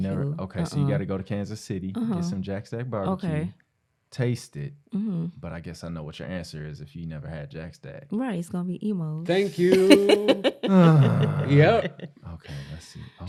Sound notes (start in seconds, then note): 9.5 laughter